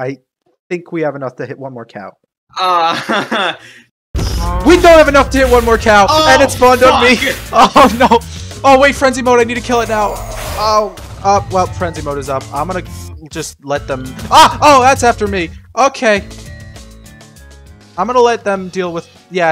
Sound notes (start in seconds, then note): 4.2 wither spawns, explosions, music resumes